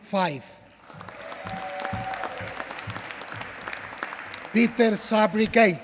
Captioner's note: applause